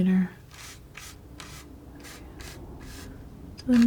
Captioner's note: scratching